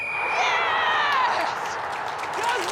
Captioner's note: whistle blows